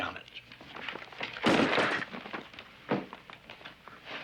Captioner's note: thuds